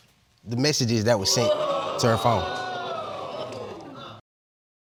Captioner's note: audience gasping